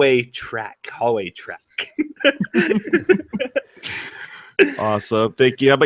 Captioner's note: laughs